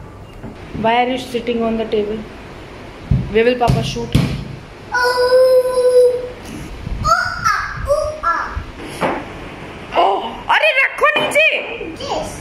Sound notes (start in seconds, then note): 4.9 ouuuuuuuuuuuuu